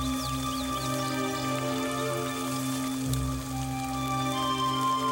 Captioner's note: water pattering